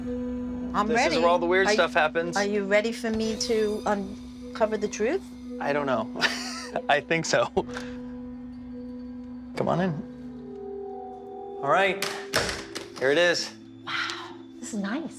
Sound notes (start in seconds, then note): 6.2 laughs